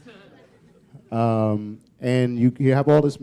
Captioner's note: chuckle